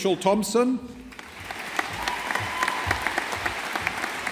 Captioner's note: audience applauding